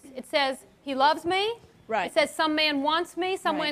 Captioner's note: woman Speaking